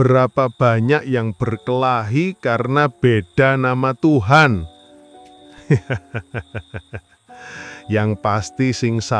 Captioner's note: laughs